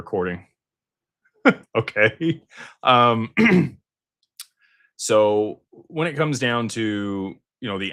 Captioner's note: clears throat